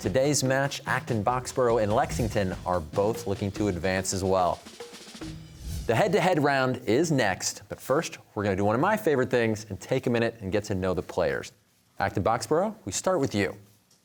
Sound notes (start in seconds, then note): none